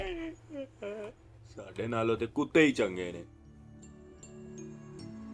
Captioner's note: goes away mumbling